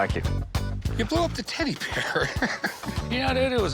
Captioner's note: chuckles